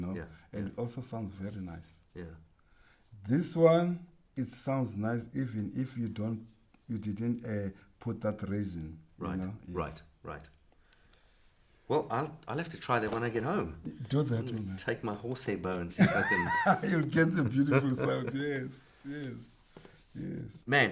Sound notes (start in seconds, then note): 15.9 laughing